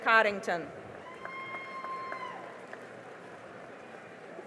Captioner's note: cheering and applause